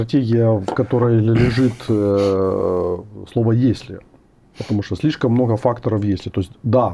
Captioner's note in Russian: откашливается